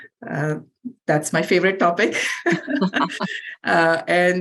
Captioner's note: laughs